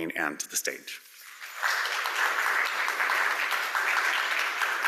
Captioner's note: audience applauding